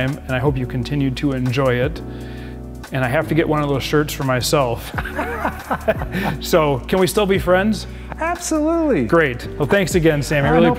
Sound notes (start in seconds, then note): 4.9 both laugh